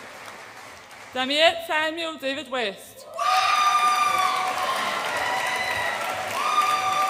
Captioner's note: audience applauds and cheers